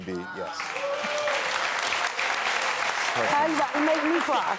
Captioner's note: crowd cheering